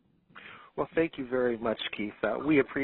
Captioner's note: voiceover